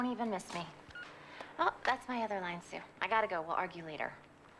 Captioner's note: beep